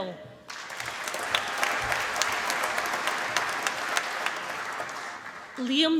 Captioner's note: applause